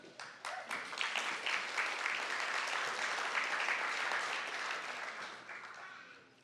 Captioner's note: applause